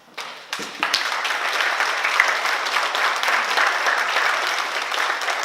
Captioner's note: oklaski